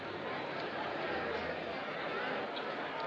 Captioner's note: crowd Murmuring